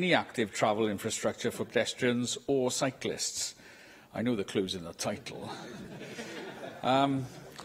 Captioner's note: laughter